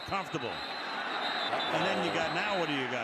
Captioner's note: whistle